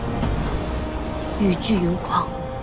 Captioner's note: the storm and rain rage